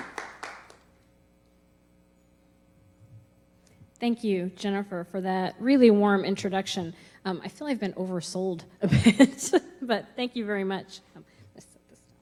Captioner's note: clapping